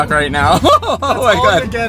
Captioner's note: laughs